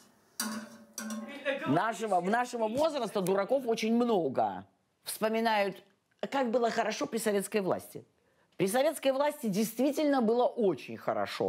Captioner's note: speaking russian